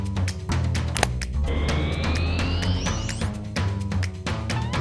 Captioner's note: pex board powers up